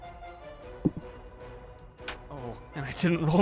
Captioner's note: dice roll